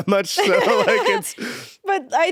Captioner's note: both laughing